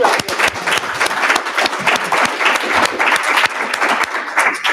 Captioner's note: applause